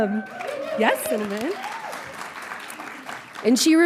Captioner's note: audience applauding